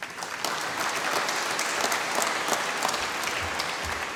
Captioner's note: applause